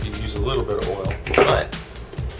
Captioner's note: bang